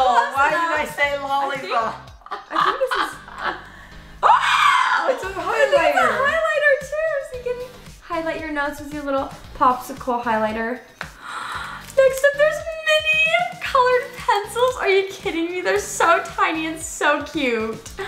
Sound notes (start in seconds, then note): 2.1 laughing; 3.6 gasps; 11.1 gasps